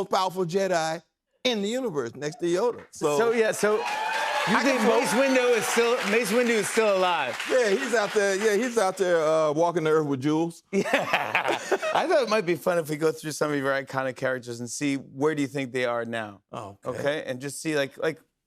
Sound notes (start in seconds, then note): 2.5 cheers and applause; 10.7 laughter